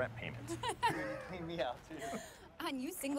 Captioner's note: Karen laughs